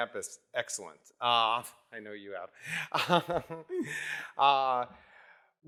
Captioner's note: laughs